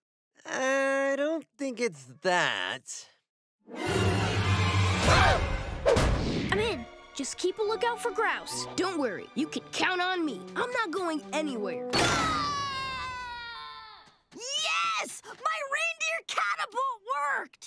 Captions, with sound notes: I don't think it's that. [shrieking] I'm in. Just keep a look out for Grouse. Don't worry, you can count on me. I'm not going anywhere. [screaming] Yes! My reindeer catapult worked!